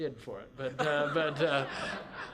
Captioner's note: laughter